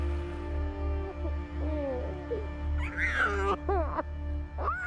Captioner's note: baby cries